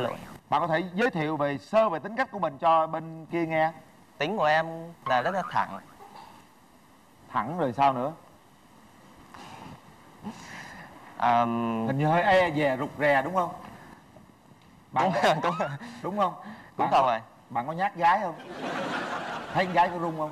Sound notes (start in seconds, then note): 9.6 chuckles